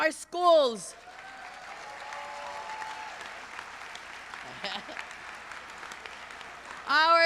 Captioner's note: applause